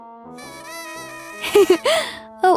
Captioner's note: Polly laughs loudly